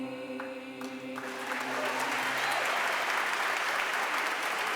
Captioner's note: applause